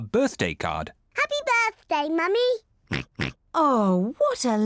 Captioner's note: oinks